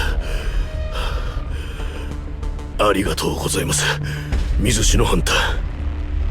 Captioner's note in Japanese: 荒い息